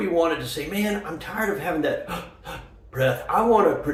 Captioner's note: gasp, gasp